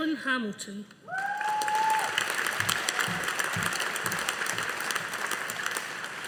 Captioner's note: audience applauding